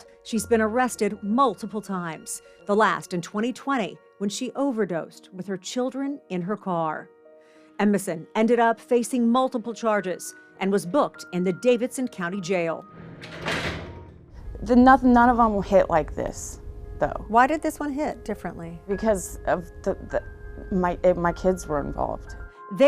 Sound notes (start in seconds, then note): 12.9 door latches